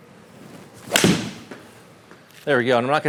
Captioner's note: club swinging